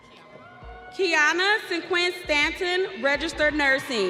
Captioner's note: audience cheering